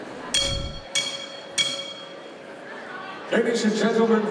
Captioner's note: bell ringing